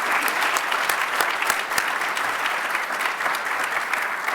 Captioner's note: applause